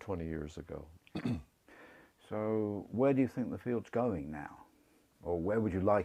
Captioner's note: cough